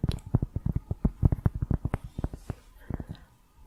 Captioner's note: tapping on cork